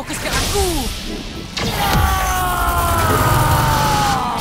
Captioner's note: energy warbles